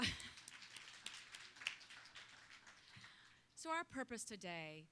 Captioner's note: applause